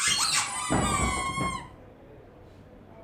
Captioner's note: squeeks